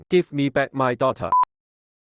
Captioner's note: bars and tone